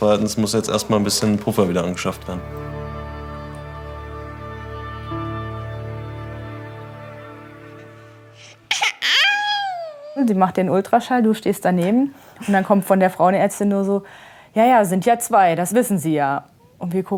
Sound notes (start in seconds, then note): 3.8 disturbing music; 8.4 baby crying